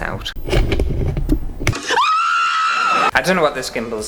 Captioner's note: screaming!